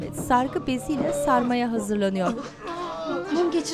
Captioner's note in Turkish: İnleme sesleri